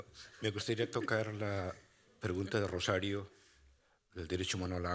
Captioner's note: speaking Spanish